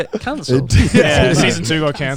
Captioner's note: chuckling